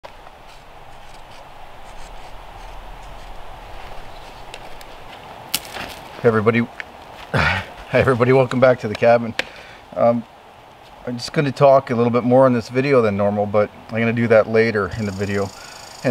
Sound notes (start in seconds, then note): 1.8 marker scraping; 7.3 laughing; 14.8 squirrel chirping